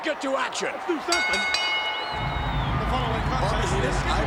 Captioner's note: bell rings